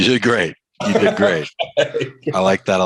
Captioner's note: laughs